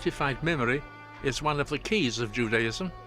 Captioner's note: speaks hebrew